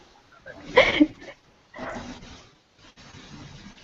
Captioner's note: laughter